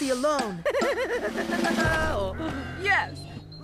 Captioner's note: laughing